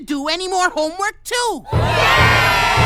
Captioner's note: students cheer and mrs. jewls bangs drum